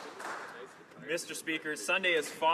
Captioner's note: some Applause